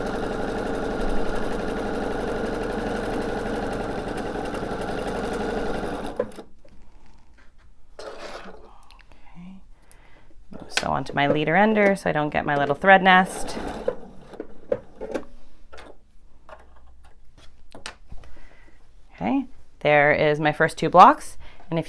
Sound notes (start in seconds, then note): 0.0 sewing machine whirs